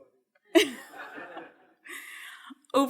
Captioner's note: all laughing